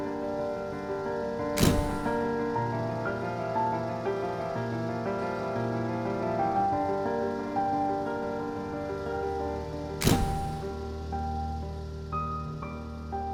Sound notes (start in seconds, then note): 0.0 light piano music; 1.6 camera shutter clicking; 2.3 light piano music; 10.0 camera shutter clicking; 10.7 light piano music